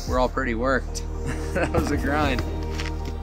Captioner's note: chuckles